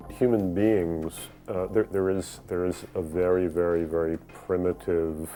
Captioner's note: voiceover